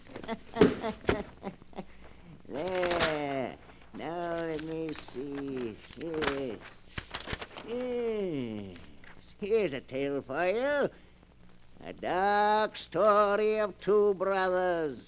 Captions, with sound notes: [Laughter] There. Now let me see. Here it is. Here's a tale for you. A dark story of two brothers.